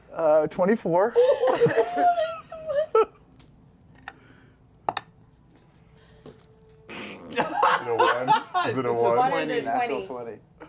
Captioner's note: laughs